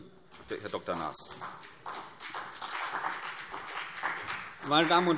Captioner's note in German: Beifall CDU und BÜNDNIS 90/DIE GRÜNEN